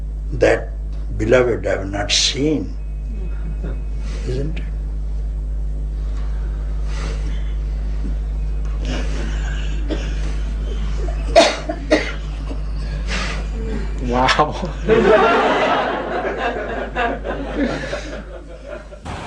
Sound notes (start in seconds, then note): 14.6 laughter